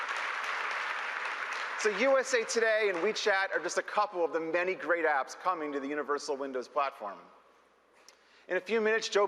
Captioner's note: applause